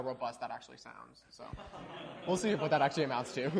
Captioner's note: laughter